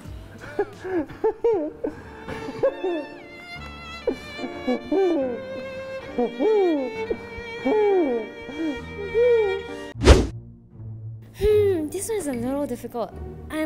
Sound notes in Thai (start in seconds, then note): 3.8 ร้องไห้